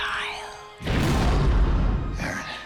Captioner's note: thunder rumbles